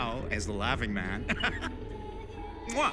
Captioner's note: laughs